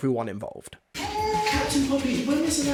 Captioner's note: baby loudly crying